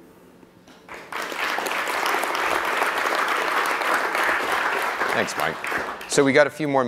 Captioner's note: applause